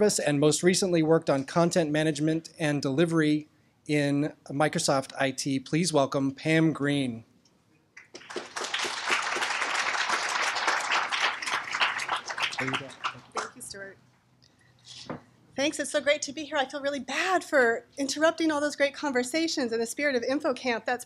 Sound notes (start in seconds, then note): 8.0 applause